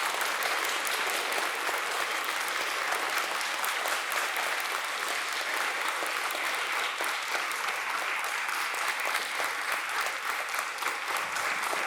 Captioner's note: applause